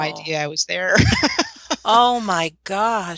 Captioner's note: laughter